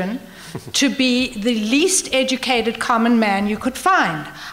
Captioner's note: laughter